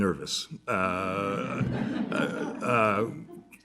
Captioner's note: laughter